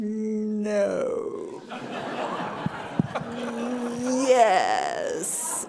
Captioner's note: people laughing